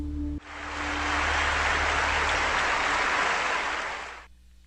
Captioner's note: audience applauds